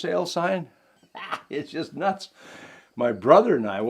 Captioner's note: laughing